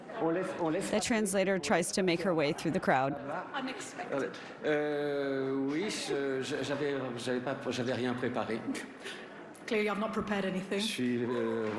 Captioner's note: speaking french